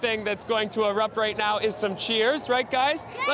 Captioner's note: cheering